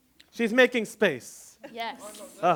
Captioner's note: chatter